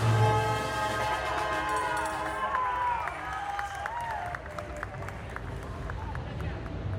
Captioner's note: applause